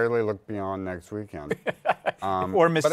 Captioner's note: laughs